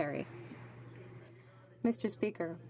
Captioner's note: some Applause